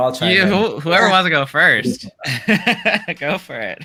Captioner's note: laughs